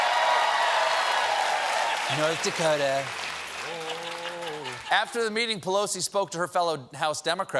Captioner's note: cheers and applause